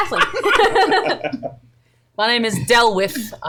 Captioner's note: laughter